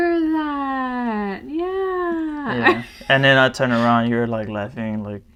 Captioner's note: laughs